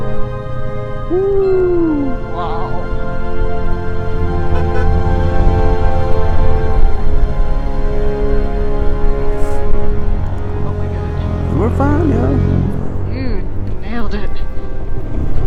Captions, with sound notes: Ooh! Wow! [light honking] Oh my God! We're fine, yo. You nailed it!